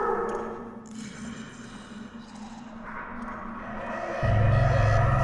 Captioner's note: low growling